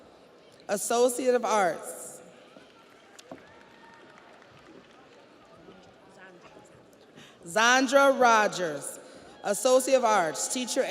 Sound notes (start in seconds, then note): 5.5 audience applauds